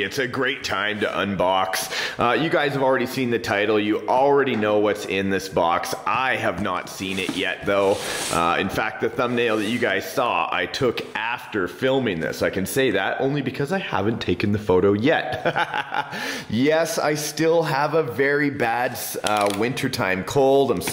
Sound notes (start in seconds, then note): 15.3 laughs